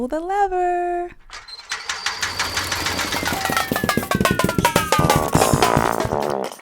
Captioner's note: sound of lever being pulled, machine puttering out